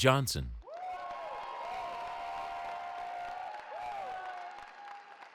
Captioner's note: cheering